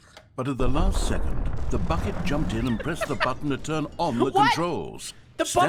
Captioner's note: facility rumbling, laughing